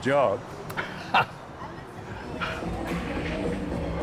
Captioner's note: laughs